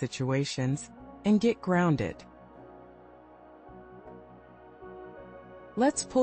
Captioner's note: pause